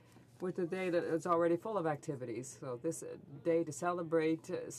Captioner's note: speaking French